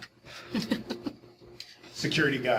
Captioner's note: audience laughing